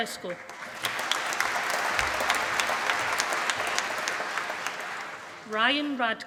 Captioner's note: applause